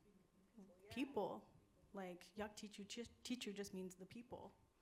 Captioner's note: speaking in foreign language